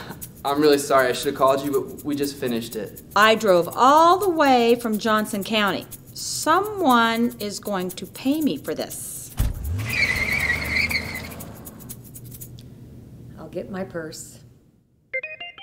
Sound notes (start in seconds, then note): 9.3 a door slams shut and a car peels out